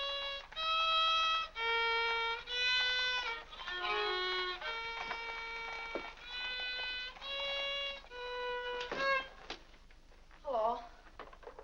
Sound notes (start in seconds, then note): 0.0 violin plays unsteadily; 8.7 door closes